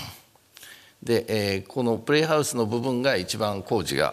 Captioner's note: speaking japanese